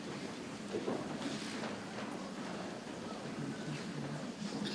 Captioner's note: people chattering softly